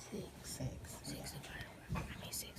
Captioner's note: student whispering